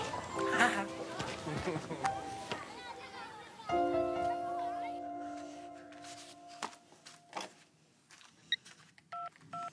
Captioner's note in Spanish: Risas